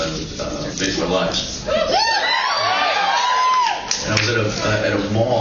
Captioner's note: cheers